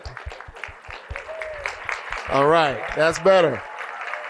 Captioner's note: applause